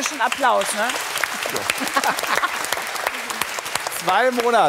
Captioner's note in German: Applaus